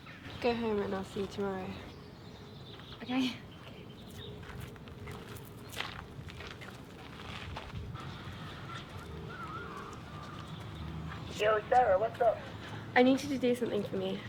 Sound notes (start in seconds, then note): 9.1 phone ringing